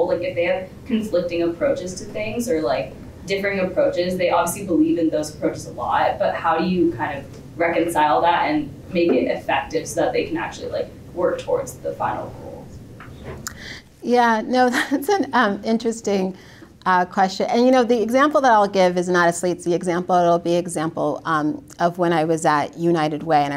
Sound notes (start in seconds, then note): 14.8 laughs